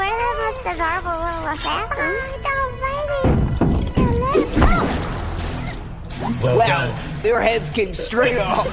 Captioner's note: loud stomping, subdued sounds of violence